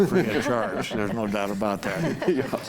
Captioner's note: group laughs